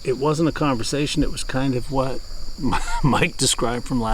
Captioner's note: laughing